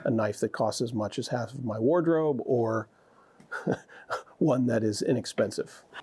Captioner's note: chuckles